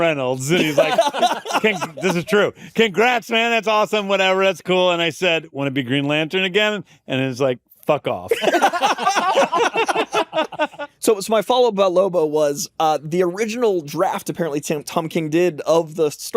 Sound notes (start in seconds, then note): 8.3 laughter